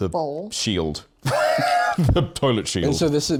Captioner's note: laughs